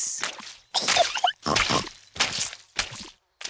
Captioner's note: giggles and snorts